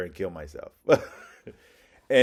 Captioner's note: laugh